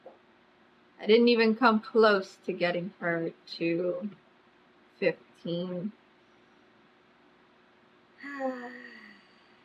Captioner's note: sighs